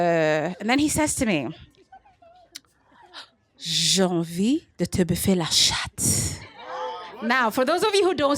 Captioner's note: speaking french